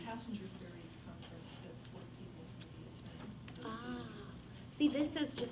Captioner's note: faintly speaking